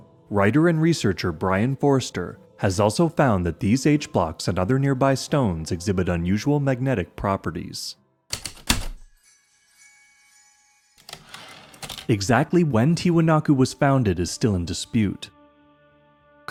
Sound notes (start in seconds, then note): 8.3 heavy typewriter keystrokes, light chimes, typewriter return slide